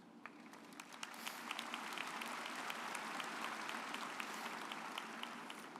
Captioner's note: audience applauds